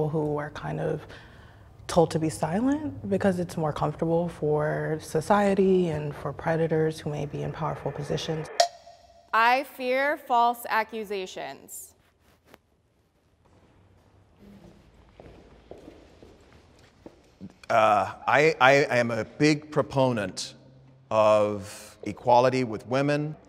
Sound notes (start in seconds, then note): 8.5 bell dings; 13.8 footsteps